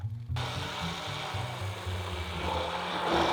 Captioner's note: immersion blender running